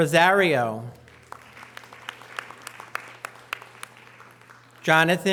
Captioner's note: audience applause